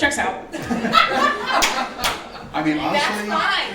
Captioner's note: audience laughs